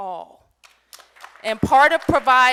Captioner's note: applause